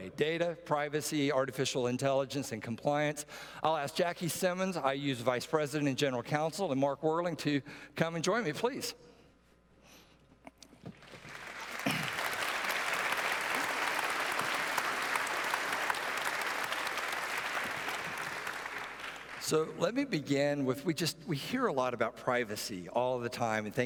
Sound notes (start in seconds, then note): 10.9 applause